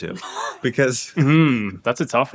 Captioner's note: laughing